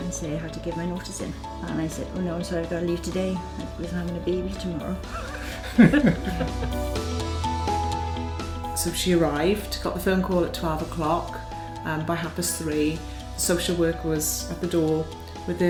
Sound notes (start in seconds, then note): 7.8 laughs